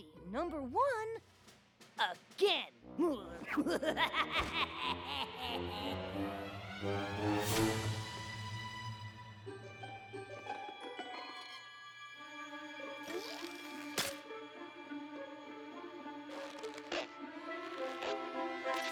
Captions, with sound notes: AND I'LL BE NUMBER ONE AGAIN! [ LAUGHS MANIACALLY ] [ PITTER! PITTER! PITTER! ] [ SPROING! SNAP! ] [ SQUEAK! SQUEAK! ]